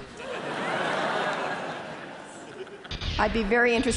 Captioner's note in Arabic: ضحك